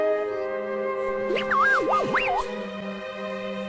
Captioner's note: panicked beeping